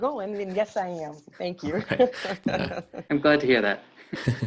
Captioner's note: chuckling